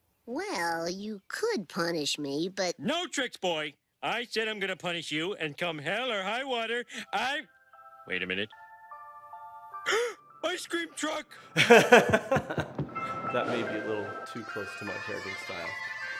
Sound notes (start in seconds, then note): 9.8 gasp; 11.6 laughing